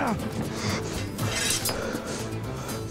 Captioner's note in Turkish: Kılıç sesi